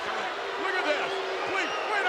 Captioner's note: spectators booing